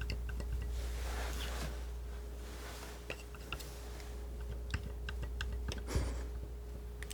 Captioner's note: tapping